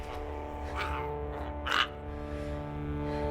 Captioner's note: Giree grumbles; tense music